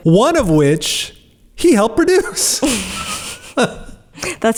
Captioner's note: laughs